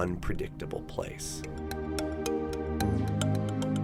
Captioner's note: voiceover